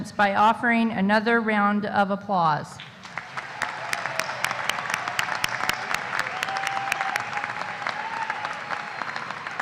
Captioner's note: applause